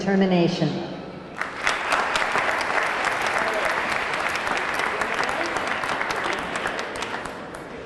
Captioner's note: audience clapping; audience cheering